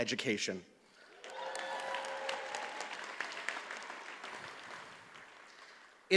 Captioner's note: audience cheers and applauds